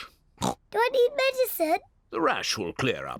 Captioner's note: oinks